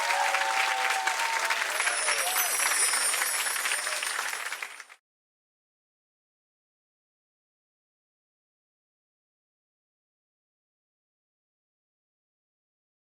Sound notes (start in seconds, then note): 1.6 chimes ring